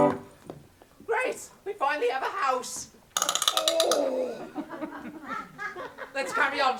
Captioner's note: back clicking back into place